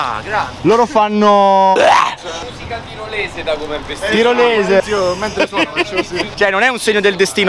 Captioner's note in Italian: blargh!